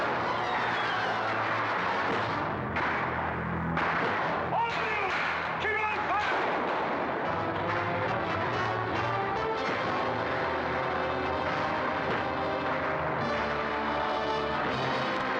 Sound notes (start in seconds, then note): 2.0 wham; 6.4 dramatic ominous music